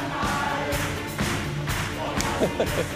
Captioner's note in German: Publikum klatscht im Takt